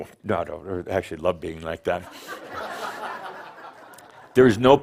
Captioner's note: laughter